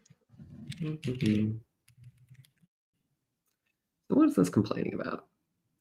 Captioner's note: hums